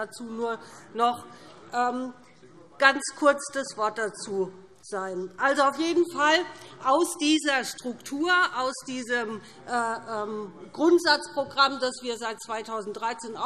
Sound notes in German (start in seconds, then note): none